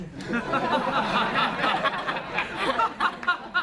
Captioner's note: laughing